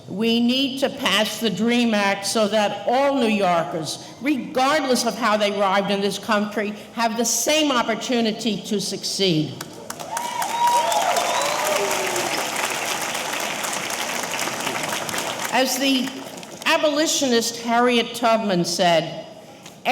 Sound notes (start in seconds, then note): 9.8 audience applauding; 9.9 audience cheering